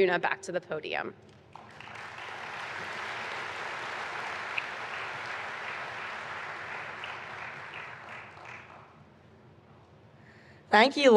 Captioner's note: applause